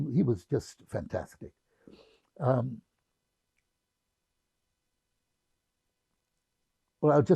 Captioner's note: pauses 6 seconds